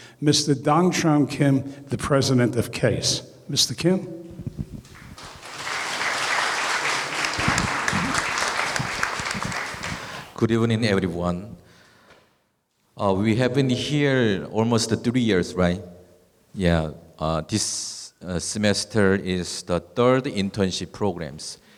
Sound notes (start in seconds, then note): 4.8 applause